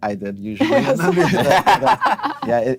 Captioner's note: laughing